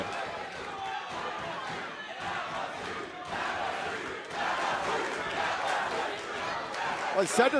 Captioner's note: crowd cheering